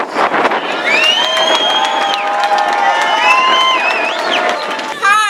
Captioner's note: cheers